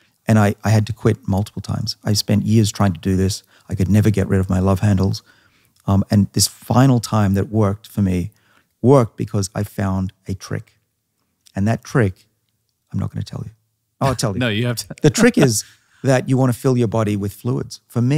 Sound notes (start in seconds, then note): 14.0 laughs